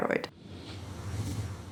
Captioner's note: whooshing